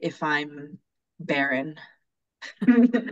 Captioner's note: laughing